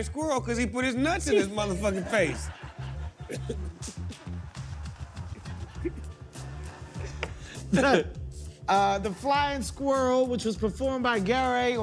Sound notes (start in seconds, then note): 4.6 laughter